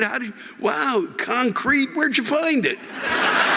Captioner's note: audience laughing